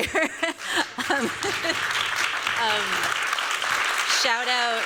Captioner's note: chuckles; applause